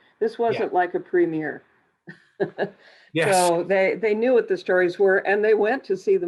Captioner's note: chuckle